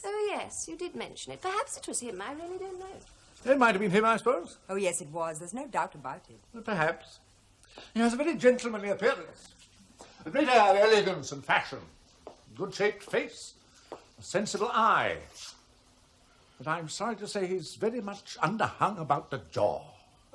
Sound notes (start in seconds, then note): none